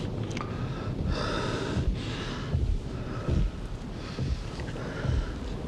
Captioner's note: steps thumping